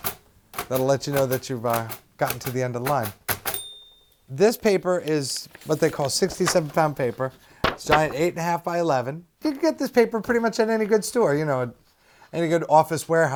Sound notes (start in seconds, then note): 3.5 ding